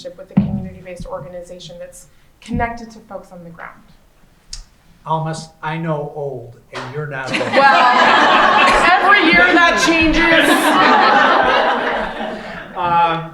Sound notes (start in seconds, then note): 7.2 laughing